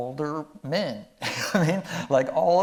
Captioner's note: chuckling